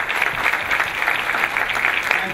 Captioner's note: clapping